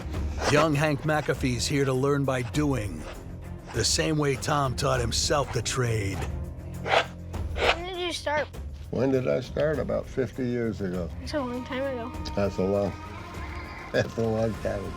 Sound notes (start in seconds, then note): 6.7 rasping; 13.2 laughing